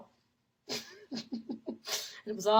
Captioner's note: laughs